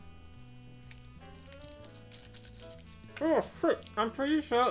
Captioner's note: cracker crunches